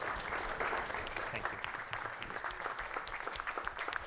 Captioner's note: crowd applauding